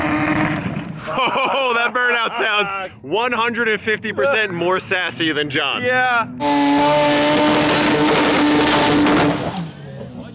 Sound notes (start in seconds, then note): 1.0 everyone laughing; 6.2 engine roaring